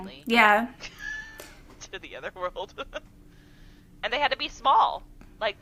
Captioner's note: laughter